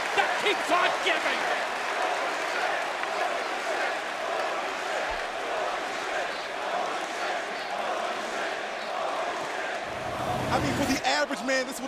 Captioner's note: crowd cheering